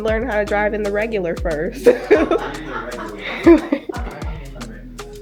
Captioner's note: everyone laughs